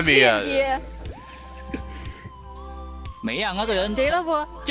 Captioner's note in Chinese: 偷笑